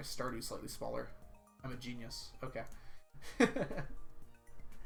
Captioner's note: laughs